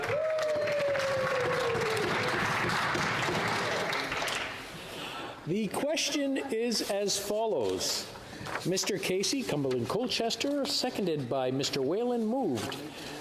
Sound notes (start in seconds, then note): 2.7 cheering